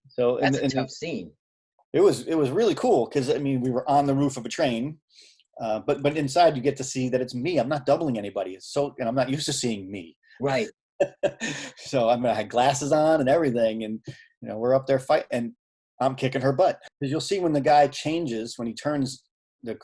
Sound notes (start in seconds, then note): 9.1 chuckling